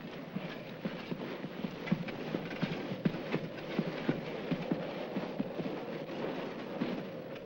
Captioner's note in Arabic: صوت الأحذية